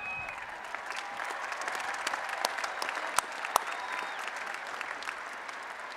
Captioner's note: applause and Cheering